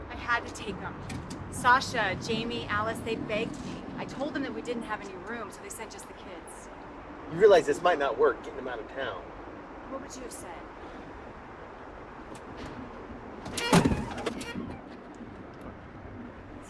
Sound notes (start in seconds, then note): none